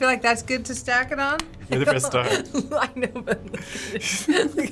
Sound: laughing

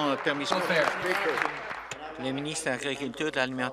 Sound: applause

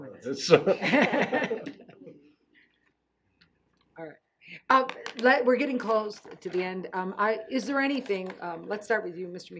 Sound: laughing

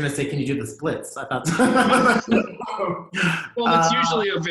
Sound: laughter

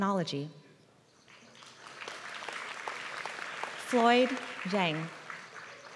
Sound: applause

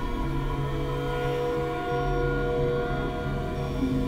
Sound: none

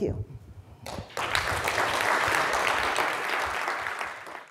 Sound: classroom applauds

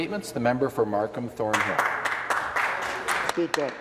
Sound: applause

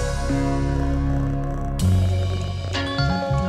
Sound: kitty purrs

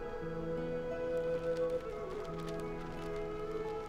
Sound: kites rustling

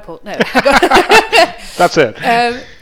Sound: both laugh

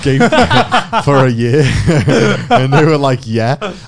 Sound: both chuckling

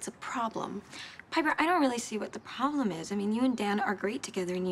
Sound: none

